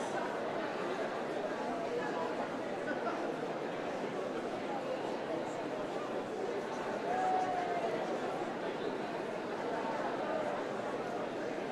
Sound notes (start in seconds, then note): none